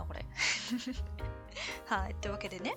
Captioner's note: laughs